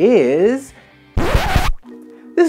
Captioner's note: record scratch